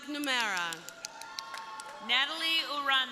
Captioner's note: crowd applauding; crowd cheering